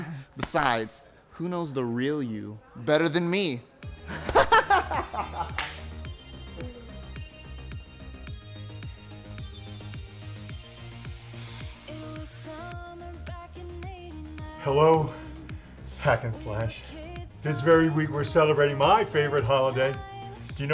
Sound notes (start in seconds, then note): 4.0 Elliot laughs; 5.4 Elliot claps; 6.4 uptempo synth music